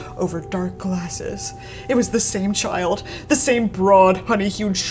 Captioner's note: none